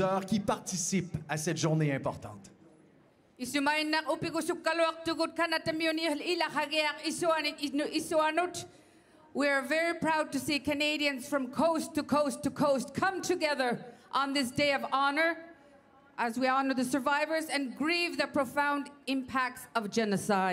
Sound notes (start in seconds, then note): 0.0 speaking French; 8.3 speaking Indigenous Language